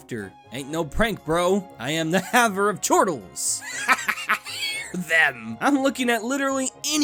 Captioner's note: chortles